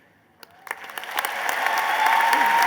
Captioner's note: applause